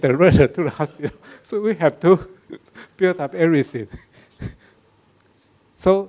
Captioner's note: laughs; laughs